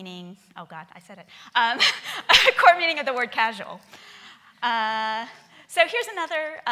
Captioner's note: laughing